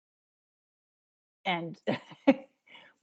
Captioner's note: chuckling